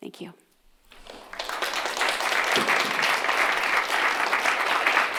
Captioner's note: applause